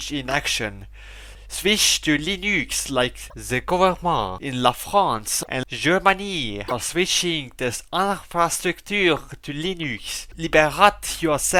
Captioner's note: in a French way